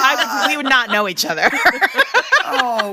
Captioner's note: laughter